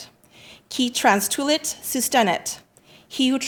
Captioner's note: speaking in Latin